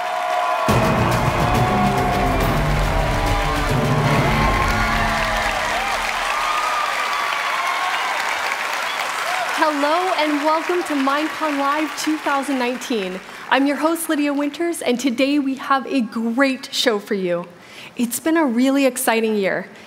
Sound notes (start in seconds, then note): 0.0 applause; 8.6 cheers and applause